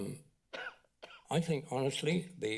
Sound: coughing

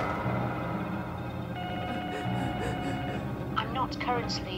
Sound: phone ringing

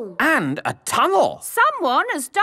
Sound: none

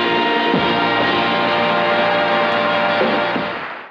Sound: audience applauding

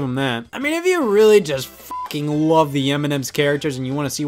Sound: beep

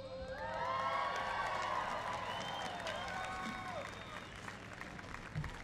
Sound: cheering and applause

